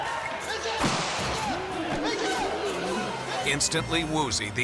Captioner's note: gun shoots